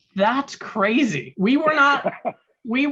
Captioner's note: laughing